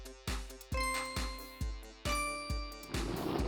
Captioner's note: ding